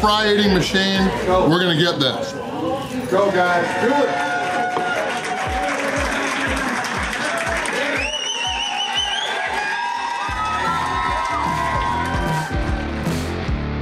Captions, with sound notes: eating machine. We're going to get this! [Crowd] Let's go guys!! Do it!! (Crowd cheering)